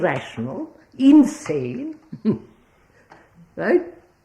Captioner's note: laughs